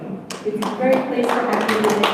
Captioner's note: audience applauds